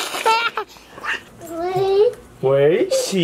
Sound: giggling

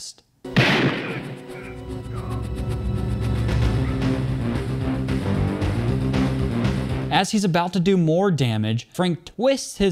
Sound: gunshots

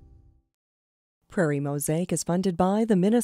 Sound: voiceover

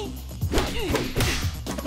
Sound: grunting

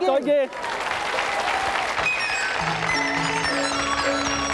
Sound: audience applauding; joyful music

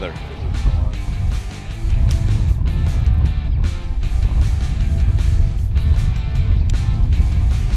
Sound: wind blowing

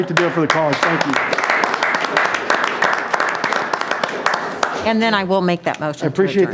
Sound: board members clapping

